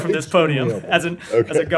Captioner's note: laughter